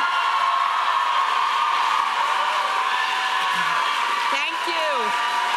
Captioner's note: audience applauding